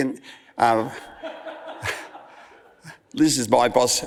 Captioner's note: audience laughs